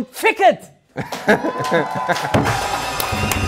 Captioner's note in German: Lachen, Jubel; Dynamische Musik